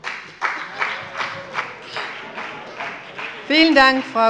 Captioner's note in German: Heiterkeit - Beifall bei dem BÜNDNIS 90/DIE GRÜNEN und der CDU